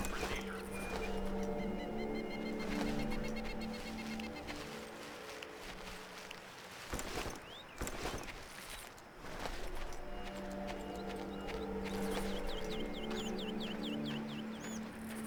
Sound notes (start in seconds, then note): 0.0 tense music; 4.3 birds chirping; 4.3 tense music